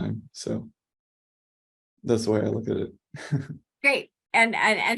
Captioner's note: laughs